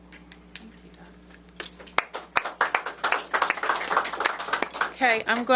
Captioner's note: applause